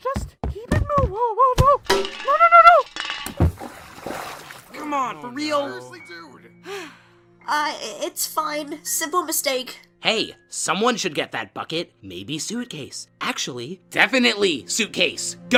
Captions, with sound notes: Just, keep it mo- whoa, whoa, whoa! No, no, no, no! [splash] [jeering] Uh, i-it's fine. Simple mistake. Hey, someone should get that bucket. Maybe, Suitcase. Actually, definitely Suitcase.